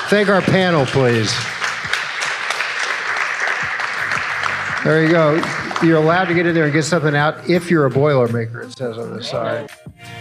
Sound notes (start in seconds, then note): 1.5 audience clapping; 10.0 upbeat music